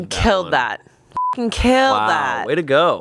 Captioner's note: beep